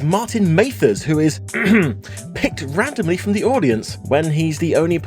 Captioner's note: ahem